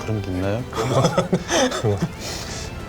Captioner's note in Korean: 웃음